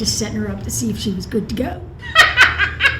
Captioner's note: laughs